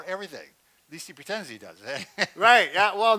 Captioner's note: laughs